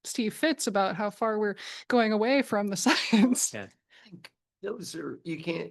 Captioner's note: chuckles